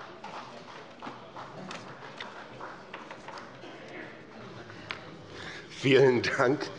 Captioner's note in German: Beifall bei Abgeordneten der CDU